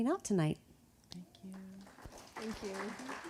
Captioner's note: audience applauding